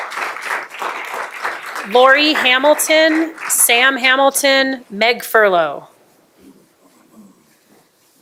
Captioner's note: applause